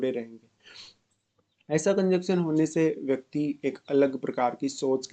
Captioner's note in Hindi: नाक से की जाने वाली आवाज़